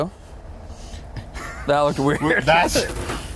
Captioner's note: laughing